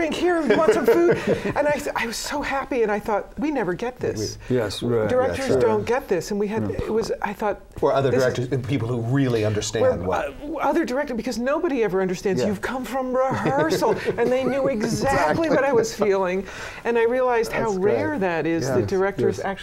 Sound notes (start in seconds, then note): 0.3 laughter; 13.2 laughter